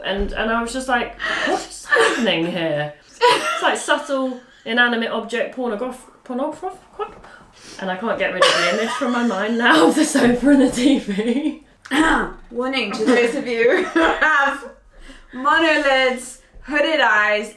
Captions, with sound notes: and I was just like, what's happening here? (laughing) Like subtle, inanimate object pornograph, pornophro, what? And I can't get rid of the image from my mind now, (laughing) of the sofa and the TV. - (clearing throat) Warning, to those of you (laughing) who have monolids, hooded eyes.